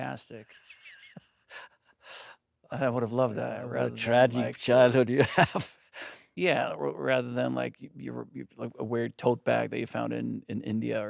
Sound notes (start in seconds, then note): 2.0 Stellan laughing; 5.1 laughing